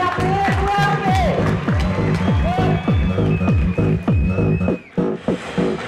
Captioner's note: applause; techno